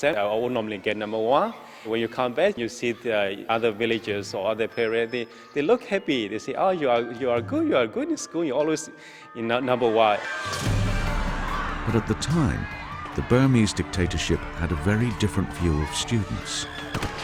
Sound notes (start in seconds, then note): 10.2 crowd yelling; 10.2 dramatic music; 12.3 voiceover